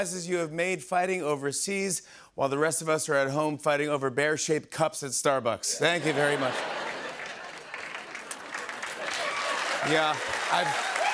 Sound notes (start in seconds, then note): 6.3 applause